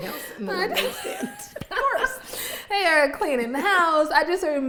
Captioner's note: laughs